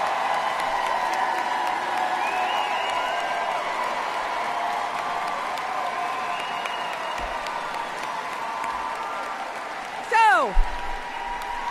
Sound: applause

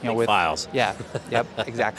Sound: laughs

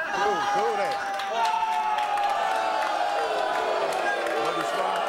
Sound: audience jeering

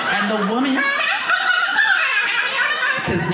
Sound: fast forwarding voice

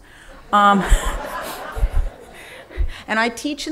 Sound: laughing

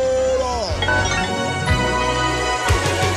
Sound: triumphant music; electronic beeping

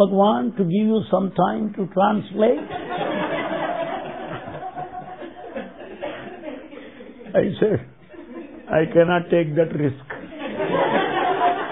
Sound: laughter

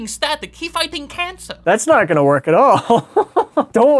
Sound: chuckles

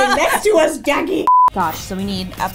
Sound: beeps

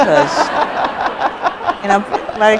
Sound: audience laughs

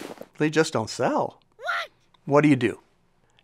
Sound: funny voice

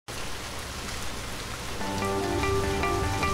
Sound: sounds of rain and music fading in

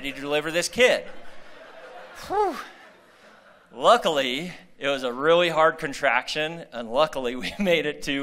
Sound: laughter

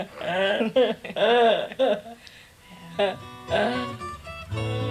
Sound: laughing

